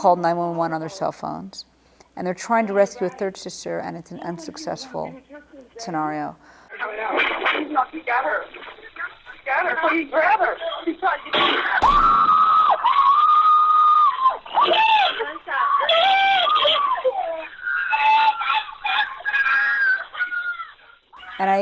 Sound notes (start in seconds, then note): 6.6 gunshots and screaming